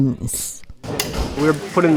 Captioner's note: clipping metal